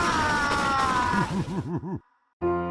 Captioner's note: ominous giggling